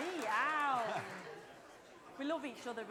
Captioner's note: applause and cheering